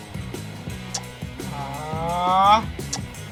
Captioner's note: raising voice